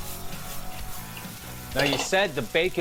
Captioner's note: grill sizzles